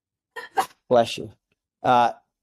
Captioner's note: person sneezes